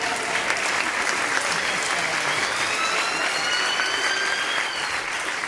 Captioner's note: ambulance siren